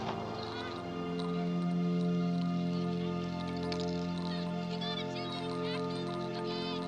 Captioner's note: chain clinking